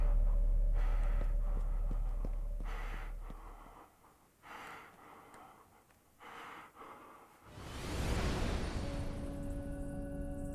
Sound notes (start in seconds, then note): 0.7 footsteps pattering; 2.8 Skull-Faced Assailant panting